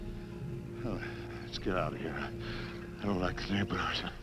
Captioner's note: sighs